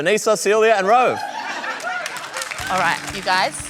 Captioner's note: applause